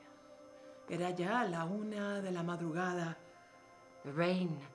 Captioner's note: speaking in foreign language